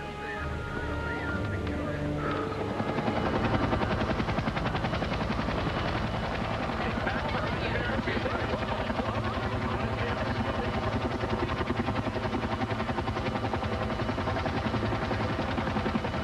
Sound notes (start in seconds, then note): 2.4 sighs; 3.4 rotors whirring; 7.7 crowd murmuring